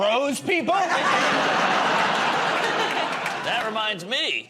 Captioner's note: laughter